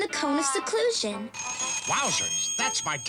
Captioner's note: ringing